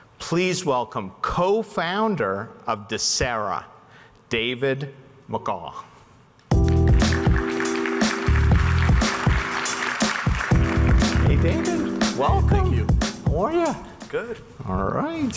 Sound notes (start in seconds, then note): 6.5 audience clapping; 6.7 upbeat music